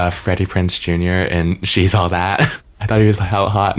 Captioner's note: chuckles; laughs